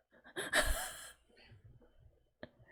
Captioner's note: laughs